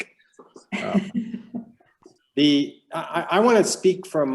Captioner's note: laughing